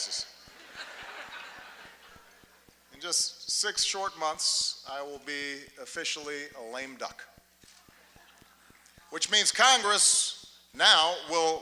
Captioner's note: laughter